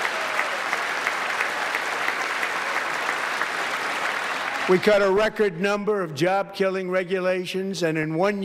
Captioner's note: applause